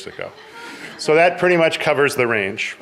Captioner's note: audience laughing